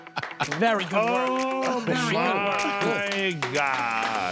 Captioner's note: applause